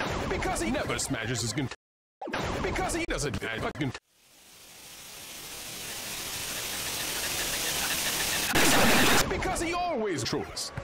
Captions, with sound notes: Because he never smashes his cunt. Because he doesn't have a cunt. *static, increasing in volume* EXCEPTINCANADA Because he always trolls.